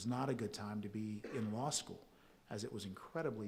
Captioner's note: audience member coughs